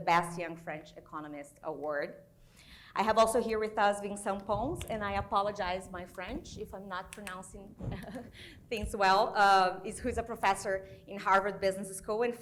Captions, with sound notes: BAS Young French Economist Award. I have also here with us Vincent Pons. And I apologize my French if I'm not pronouncing (chuckles) things well. Who's a professor in Harvard Business School